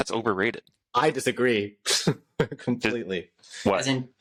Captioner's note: laughter